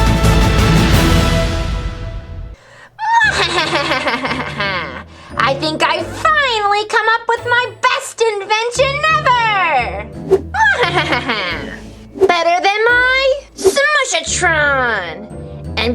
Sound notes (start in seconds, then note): 3.0 evil laughing; 10.5 laughs